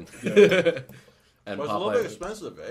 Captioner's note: laughs